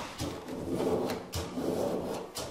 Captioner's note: grinding noises